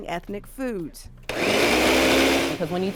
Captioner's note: blender whirring